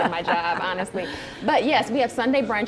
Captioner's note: laughs